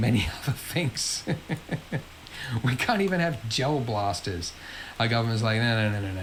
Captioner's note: laughs